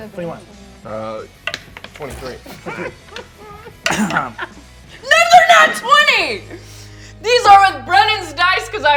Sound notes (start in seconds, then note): 1.5 die rolls; 2.4 laughs